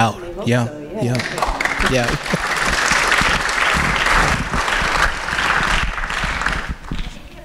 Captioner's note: applause